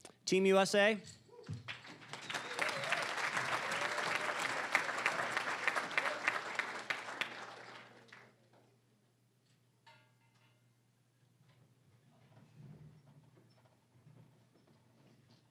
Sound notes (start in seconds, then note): 1.7 cheering, applause; 5.9 applause